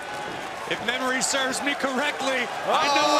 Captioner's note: crowd cheering